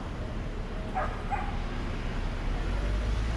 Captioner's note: bark bark!